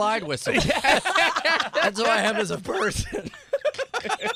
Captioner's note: laughter